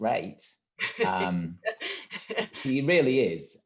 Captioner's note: laughs